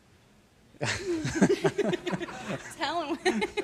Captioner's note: laughing